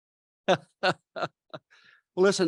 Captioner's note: laughs